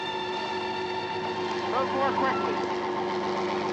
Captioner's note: helicopter whirring